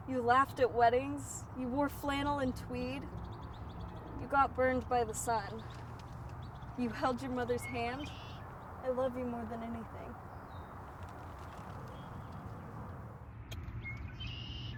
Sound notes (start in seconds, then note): 11.6 birds chirp